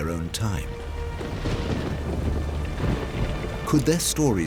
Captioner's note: thunder crashing